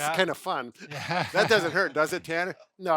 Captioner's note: laughter